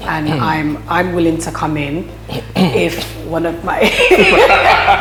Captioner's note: laughs